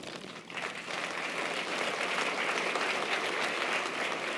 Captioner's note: audience applause